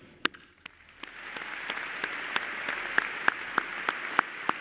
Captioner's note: applause